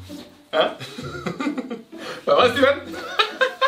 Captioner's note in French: Rires